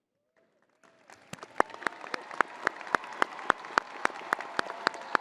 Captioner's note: crowd applauding